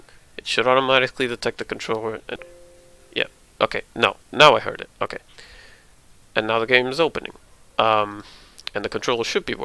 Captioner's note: ding